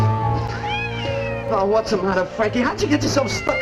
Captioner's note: cat Meows